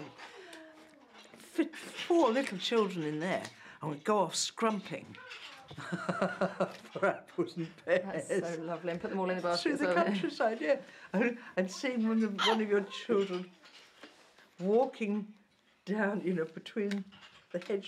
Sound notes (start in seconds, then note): 5.7 laughter